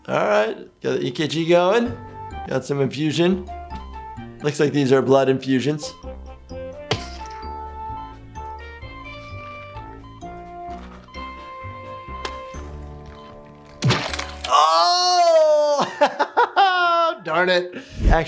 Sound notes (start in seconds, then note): 6.8 squish; 15.3 laughs